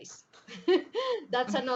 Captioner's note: laughs